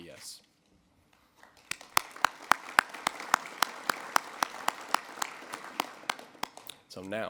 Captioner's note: audience clap